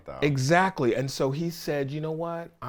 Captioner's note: none